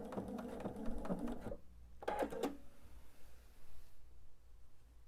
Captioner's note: sewing machine whirring